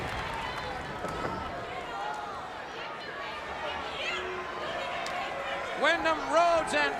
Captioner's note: crowd chatter